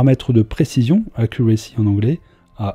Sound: "Accuracy" in English

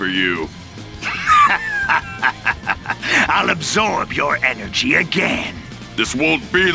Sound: evil laugh

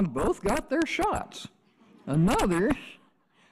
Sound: audience chuckles

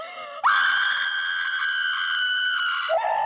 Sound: screams

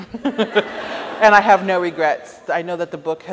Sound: chuckles

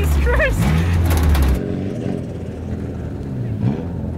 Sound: engine revving

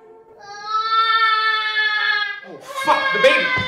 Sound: baby cries

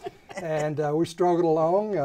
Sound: laughing

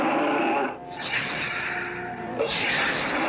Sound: dragon Roaring; whoosh, Whoosh

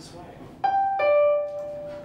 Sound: doorbell

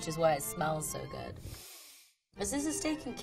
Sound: sniffing

